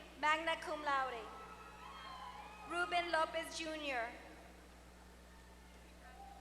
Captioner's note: applause